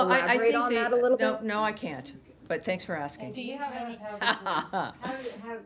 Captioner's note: laughter